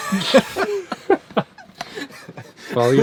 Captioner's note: laughter